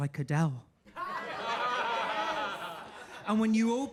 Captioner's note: audience laughing